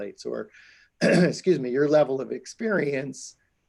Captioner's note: clears throat